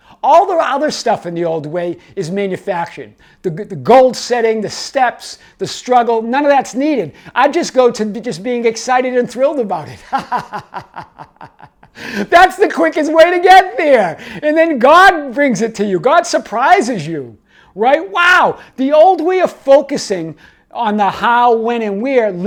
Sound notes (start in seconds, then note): 10.0 laughing